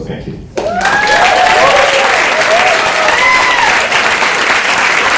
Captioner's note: audience applause